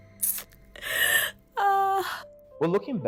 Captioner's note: crying continues